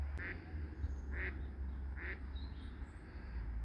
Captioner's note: ducks quacking